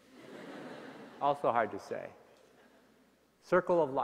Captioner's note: laughter